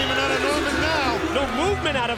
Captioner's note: bell ringing